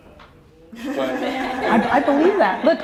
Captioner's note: laughing